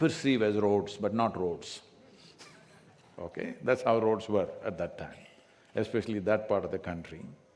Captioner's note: laughter